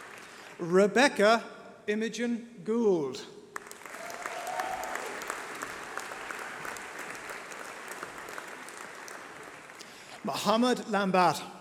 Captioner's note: applause